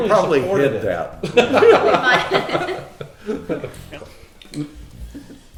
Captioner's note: everyone laughing